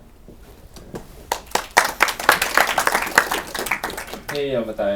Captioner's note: applause